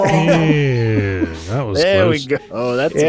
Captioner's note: sarcastically